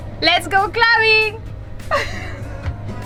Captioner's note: laughs